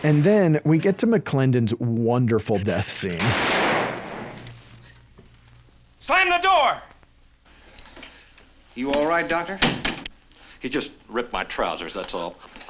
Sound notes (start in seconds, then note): 3.2 gunshot blasting; 10.0 door bangs